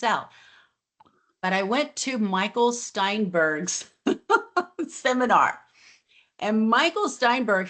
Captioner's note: laughs